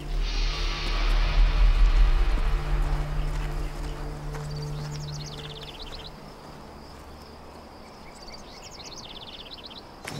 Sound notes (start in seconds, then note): 0.0 dramatic music; 4.8 birds chirping